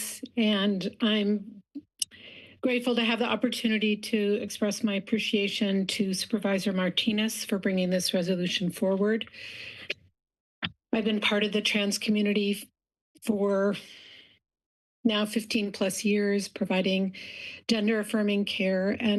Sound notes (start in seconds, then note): 9.5 pause